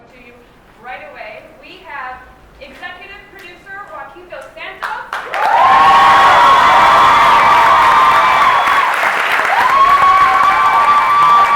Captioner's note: cheering